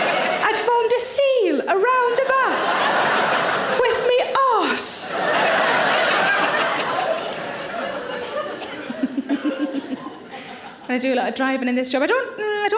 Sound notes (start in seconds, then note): 4.9 audience laughing; 8.1 Sarah giggles